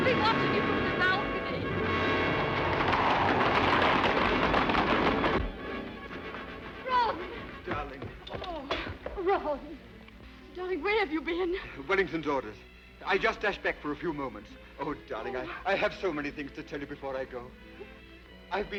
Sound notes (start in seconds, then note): 1.4 hooves thundering; 2.3 dramatic orchestral music